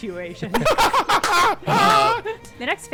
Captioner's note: laughing